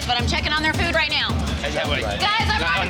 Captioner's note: chatter